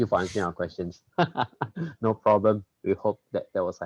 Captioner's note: laughs